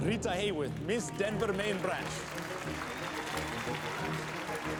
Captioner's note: crowd applauding